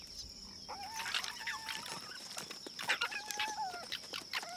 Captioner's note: yipping